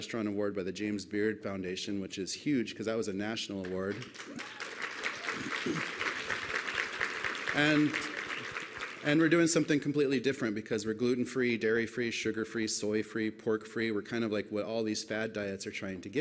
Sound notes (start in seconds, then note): 7.7 applause